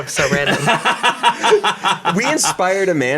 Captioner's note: laughs